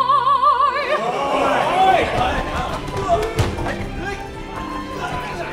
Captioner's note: MEN cheer